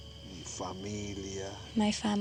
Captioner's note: spanish